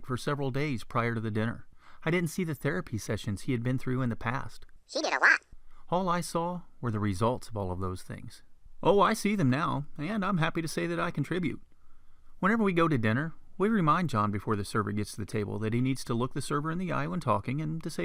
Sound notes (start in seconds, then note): 4.7 funny voice; 6.0 man's voice